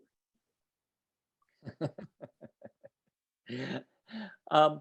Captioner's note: laughs